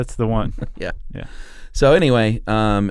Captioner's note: laughs